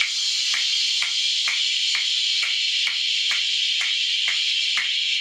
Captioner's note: snapping